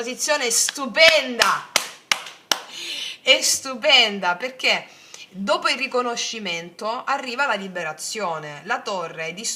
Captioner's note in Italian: applauso